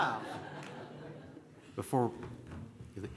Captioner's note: laughter